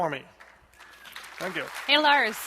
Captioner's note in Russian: аплодисменты